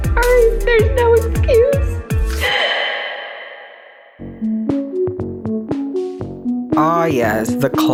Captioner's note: sobs with reverb